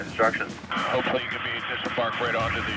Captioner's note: man On Radio